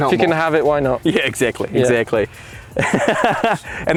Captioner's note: laughs